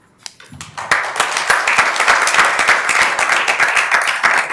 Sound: members applauding

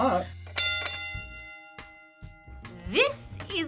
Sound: bell rings

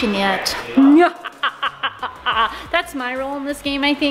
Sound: evil laughing

